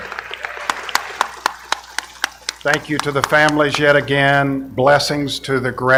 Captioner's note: applause